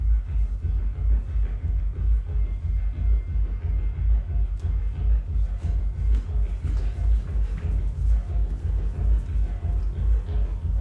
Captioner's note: dancers shuffling